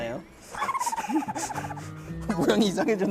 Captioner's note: laughter